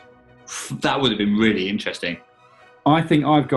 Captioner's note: inhales